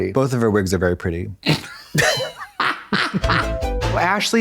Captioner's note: blonde Women guffaw